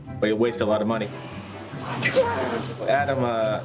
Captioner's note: exclaims in frustration